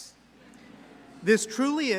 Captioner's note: audience laughs